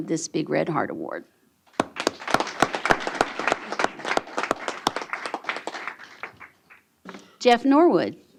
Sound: applause

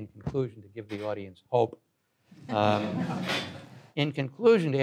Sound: audience laughs

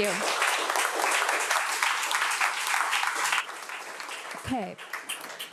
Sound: audience applauding

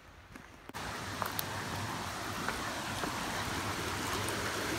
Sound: water rushes

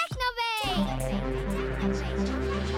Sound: echoing

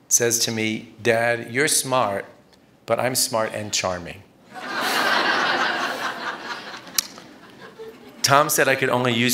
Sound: laughter

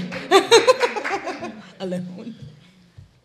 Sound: laughing

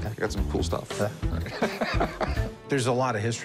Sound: laughs

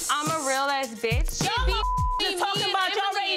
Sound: beep

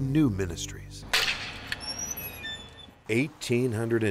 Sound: metallic creaking

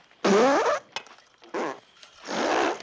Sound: pfft!

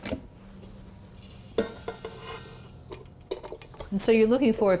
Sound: pans clinking

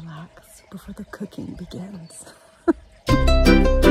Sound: chuckles; gentle music

